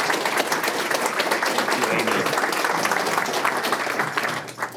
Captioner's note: applause